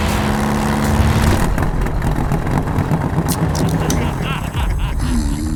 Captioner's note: laughter